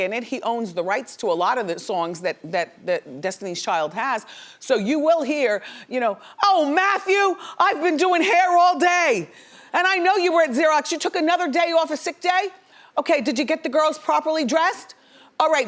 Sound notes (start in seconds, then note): none